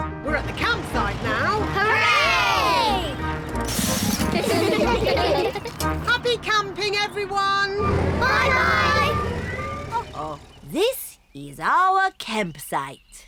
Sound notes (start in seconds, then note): 4.1 all giggling